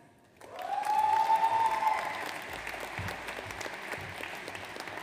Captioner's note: audience applauds